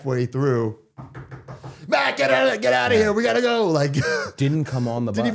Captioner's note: knocking